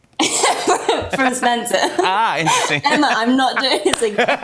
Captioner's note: laughs